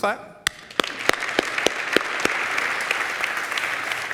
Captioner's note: audience applauds